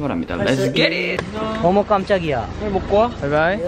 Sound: laughing

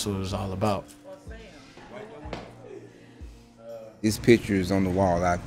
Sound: people chattering

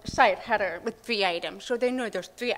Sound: none

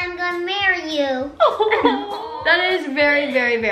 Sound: laughs

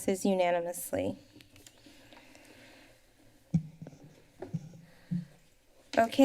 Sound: pause

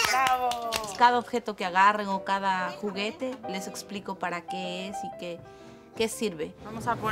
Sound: farthest baby speaks foreign language; stripey shirt woman speaks foreign language

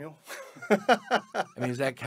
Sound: laughing heartily

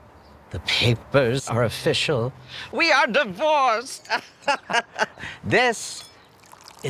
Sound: gleeful laugh

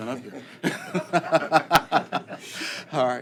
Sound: laughter

